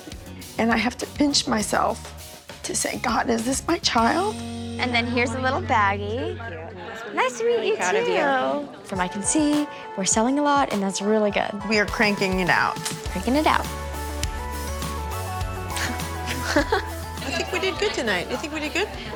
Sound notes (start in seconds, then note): 15.7 chuckles